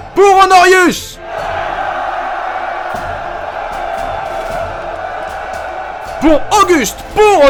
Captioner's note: cheer